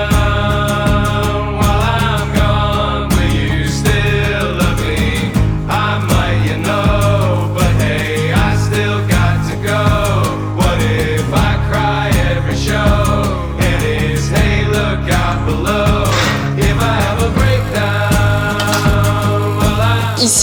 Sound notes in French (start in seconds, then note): 4.3 chant; 20.2 chant